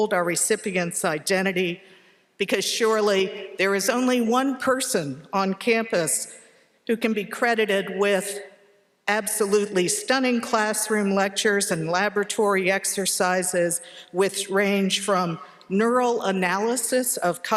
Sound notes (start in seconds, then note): none